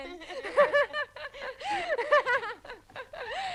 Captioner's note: both laughing